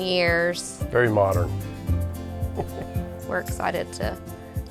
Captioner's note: laughs